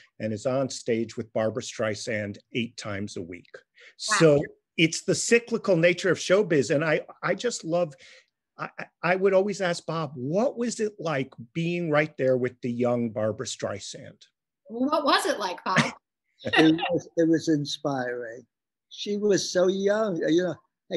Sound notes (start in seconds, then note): 16.4 laughing